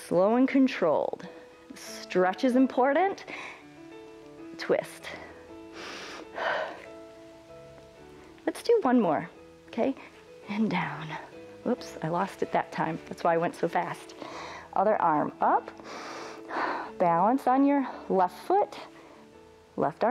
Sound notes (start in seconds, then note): 5.6 inhales and exhales; 14.2 inhales and exhales